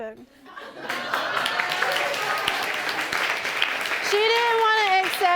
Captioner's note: audience clapping